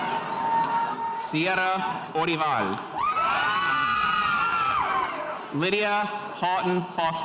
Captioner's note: spectators cheering